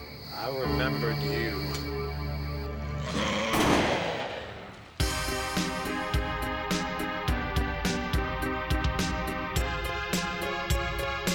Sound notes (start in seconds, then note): 3.0 growls, gunshot